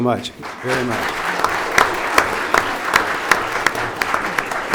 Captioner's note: audience applauds